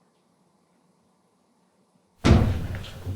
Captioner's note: none